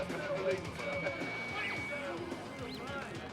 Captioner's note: talking